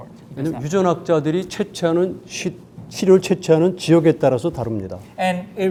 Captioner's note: speaking in Korean